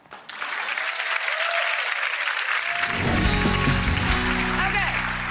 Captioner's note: audience applauds and cheers